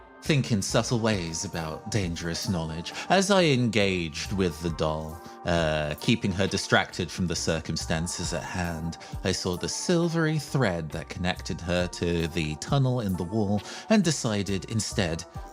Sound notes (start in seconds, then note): none